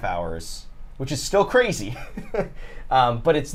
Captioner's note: laughs